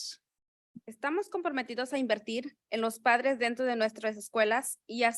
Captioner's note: speaking in Spanish